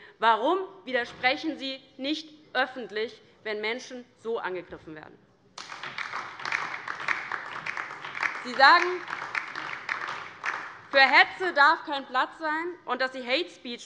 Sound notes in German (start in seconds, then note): 5.6 Beifall DIE LINKE